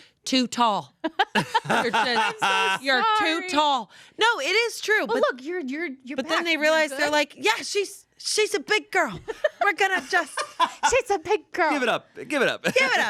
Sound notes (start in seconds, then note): 1.3 everyone laughs; 10.0 laughs